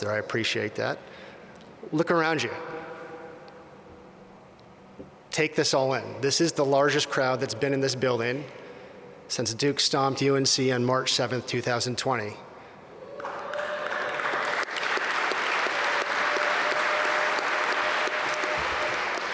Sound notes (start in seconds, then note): 13.1 applause and applause